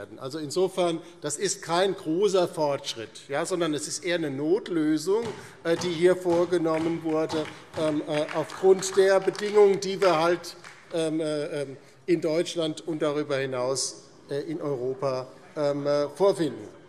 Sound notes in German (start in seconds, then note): 4.8 Beifall